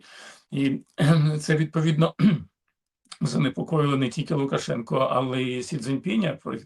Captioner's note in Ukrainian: прочищення горла